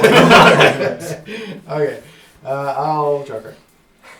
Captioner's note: laugh